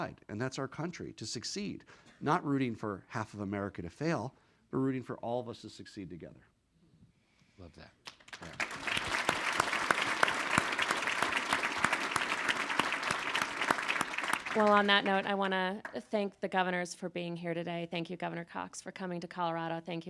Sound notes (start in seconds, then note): 8.9 all applauding